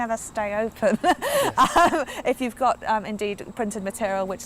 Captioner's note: chuckling